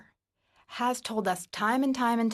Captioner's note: speaking in French